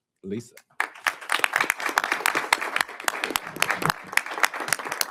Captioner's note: audience applauding